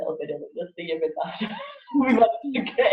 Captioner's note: laughs